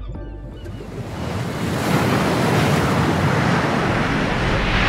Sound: water splashing

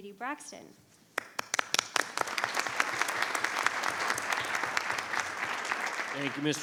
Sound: board members and audience applauding

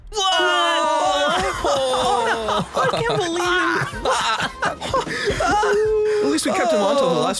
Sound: cheers

